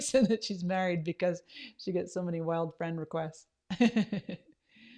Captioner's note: laughs